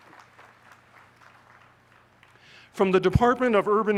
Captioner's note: applause